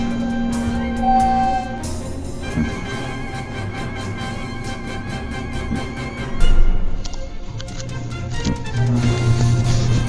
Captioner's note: elevator dings then opens